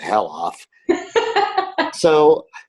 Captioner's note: laughs